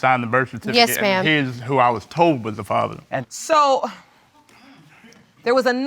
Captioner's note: sighs